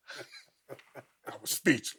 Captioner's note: both chuckling